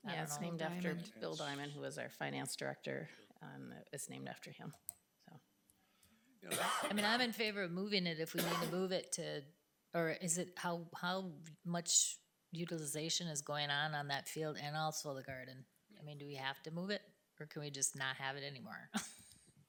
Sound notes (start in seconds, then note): 8.3 trustee coughing